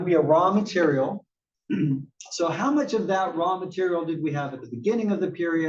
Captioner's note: cough